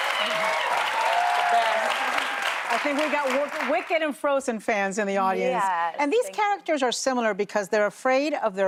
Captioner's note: cheers and applause